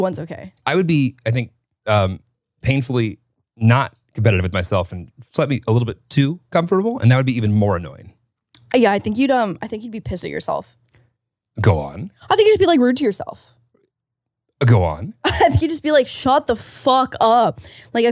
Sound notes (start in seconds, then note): 15.2 laughs